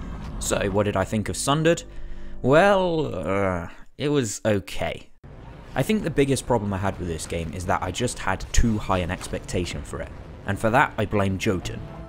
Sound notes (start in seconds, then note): 1.9 sigh